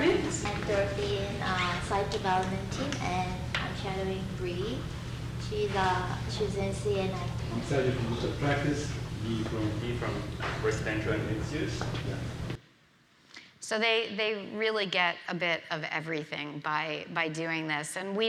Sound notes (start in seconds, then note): 7.6 faintly speaking